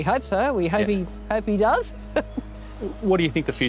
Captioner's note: chuckles